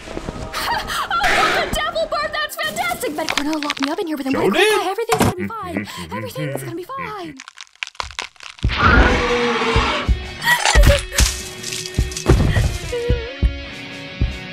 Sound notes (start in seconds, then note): 5.2 humming manically; 8.8 devil bird screeches